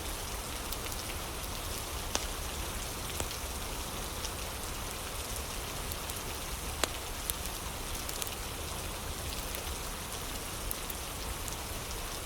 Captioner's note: fire crackling